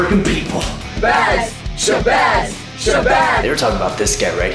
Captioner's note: chanting